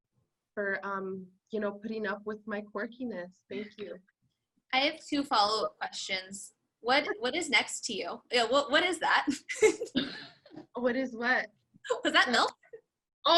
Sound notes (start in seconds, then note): 9.9 laughs